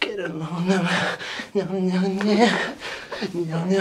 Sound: confused mumbles and heavy breathing

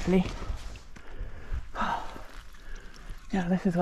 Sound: huffing & puffing

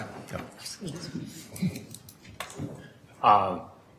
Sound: laughing

